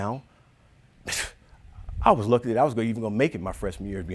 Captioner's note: scoffing